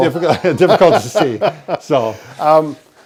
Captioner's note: both chuckle lightly